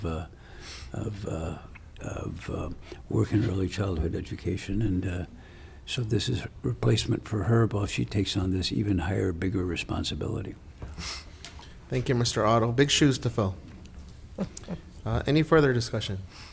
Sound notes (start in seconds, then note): 14.3 laughing